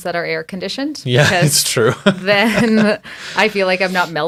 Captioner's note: laughs